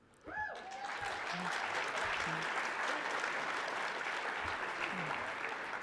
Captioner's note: applause